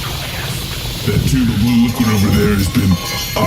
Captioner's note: quietly